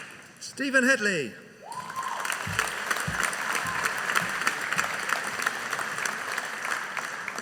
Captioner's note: audience applauding